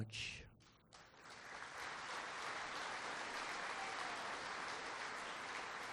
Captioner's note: applause